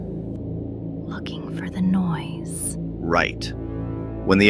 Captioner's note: whispers